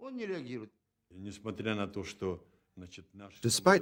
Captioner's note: speaking Russian